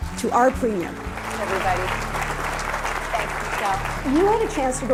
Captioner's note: applauding